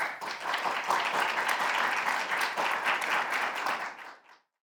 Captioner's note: audience applause